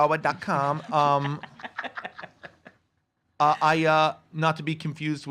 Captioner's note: laugh